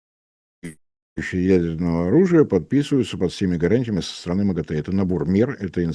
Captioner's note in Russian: откашливается